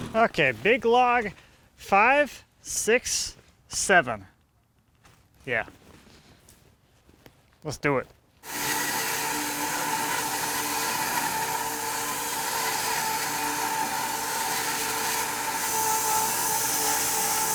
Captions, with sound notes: Okay. Big log, five, six, seven. Yeah, let's do it. (electric saw screeching)